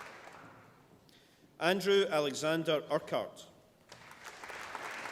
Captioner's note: applause